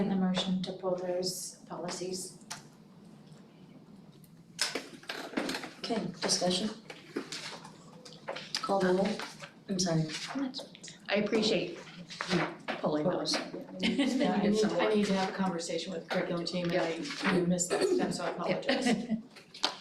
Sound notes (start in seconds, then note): 13.7 laughing